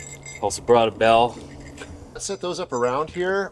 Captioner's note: bell jingling